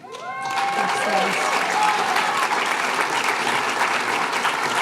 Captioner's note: applause